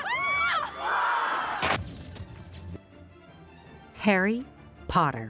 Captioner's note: fans cheering; crowd; cameras shuttering